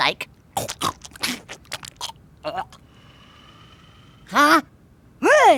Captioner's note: chewing